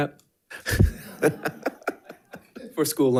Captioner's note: audience laughing